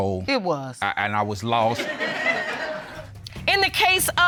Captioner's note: audience laughing